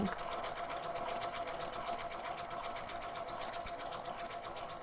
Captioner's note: sewing machine humming